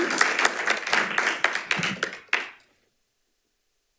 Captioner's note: audience applauding